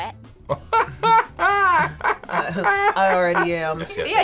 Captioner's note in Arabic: يضحك